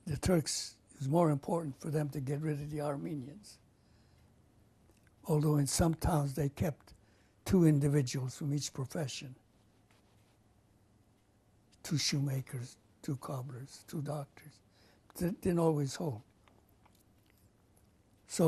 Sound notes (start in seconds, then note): 9.1 pauses for 3 seconds